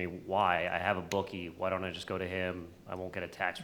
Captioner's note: none